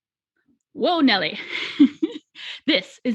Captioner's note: laughing